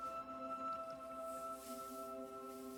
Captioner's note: iron hisses